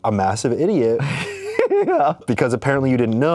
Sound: laughs

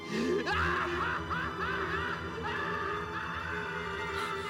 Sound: maniacal lauteghr

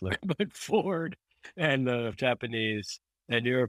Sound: laugh

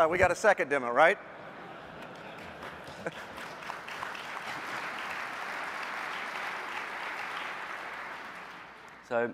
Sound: applause

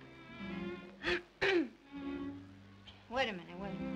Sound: clears throat

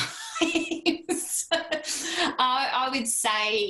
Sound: laughter

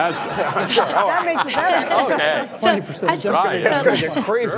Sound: laughter

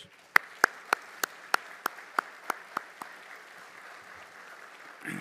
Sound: audience applauding

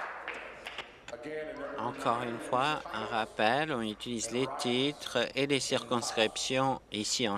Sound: applause

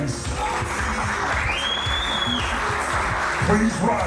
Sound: clapping and cheering

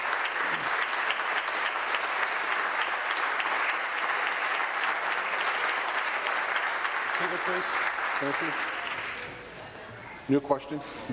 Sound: applause

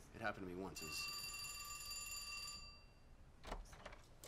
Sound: phone ringing

